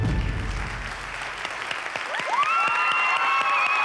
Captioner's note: cheering and applause